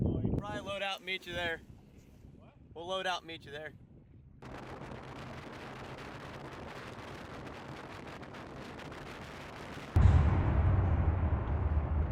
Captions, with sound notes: - We'll probably load out and meet you there, we'll load out and meet you there. (wind)